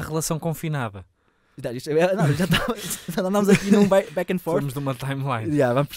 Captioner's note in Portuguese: risos